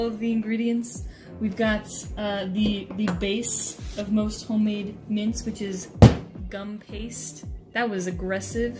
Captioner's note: slams